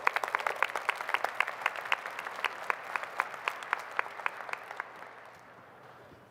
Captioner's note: applause